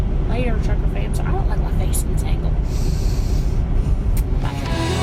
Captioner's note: inhales